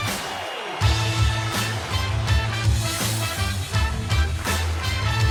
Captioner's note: whistle blong